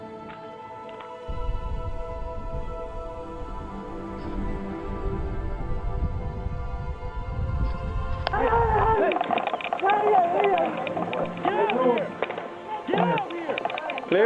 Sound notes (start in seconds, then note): 3.2 somber music continues; 8.3 soldiers shouting